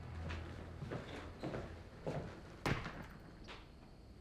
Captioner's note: footsteps approaching